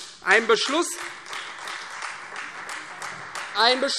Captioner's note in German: Beifall Freie Demokraten